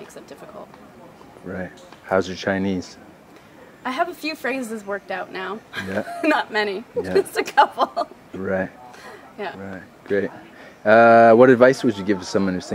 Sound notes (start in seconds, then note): 5.7 laughing